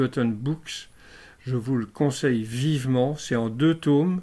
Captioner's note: in french only